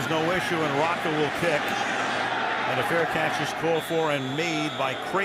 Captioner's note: booing